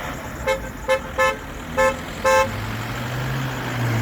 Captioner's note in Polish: trąbienie